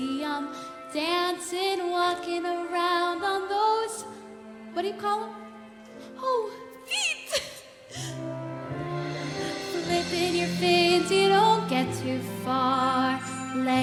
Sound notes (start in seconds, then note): 0.0 singing; 7.2 laughter; 7.9 music and singing